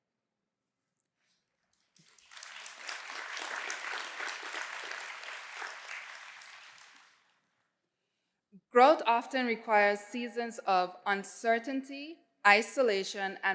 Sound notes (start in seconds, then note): 1.8 applause